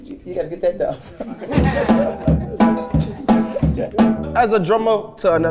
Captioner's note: all laughing; plays drums